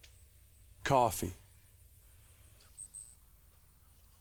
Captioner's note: birds chirping